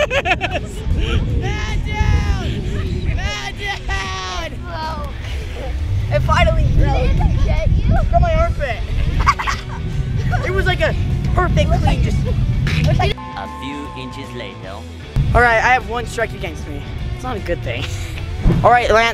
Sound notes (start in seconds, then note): 0.2 laughs; 1.9 shouting; 8.8 laughs; 18.2 laughs